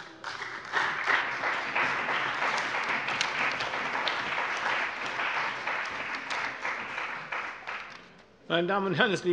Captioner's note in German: Beifall bei der CDU und dem BÜNDNIS 90/DIE GRÜNEN